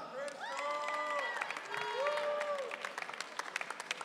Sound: audience cheering

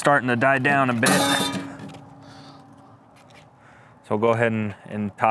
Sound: metal clanging

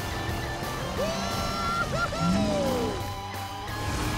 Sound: cheering

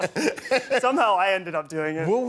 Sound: laughter

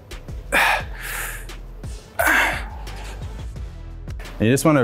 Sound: sighing heavily

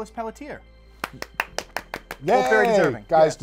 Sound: clapping

